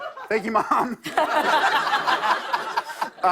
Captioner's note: laughter